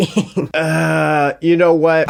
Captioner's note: chuckling